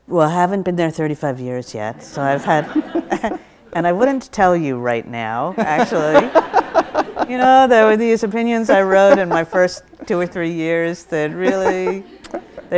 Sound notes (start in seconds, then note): 5.6 audience laughs